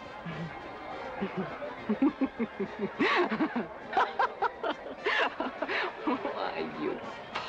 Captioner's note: laughing